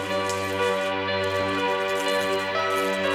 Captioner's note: flies buzzing